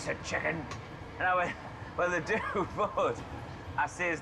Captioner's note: chuckles